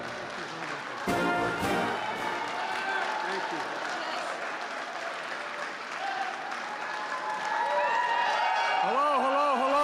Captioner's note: applause